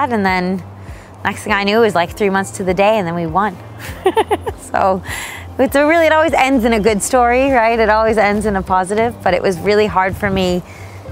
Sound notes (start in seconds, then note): 3.8 laughing